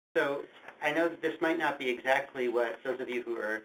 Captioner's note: voiceover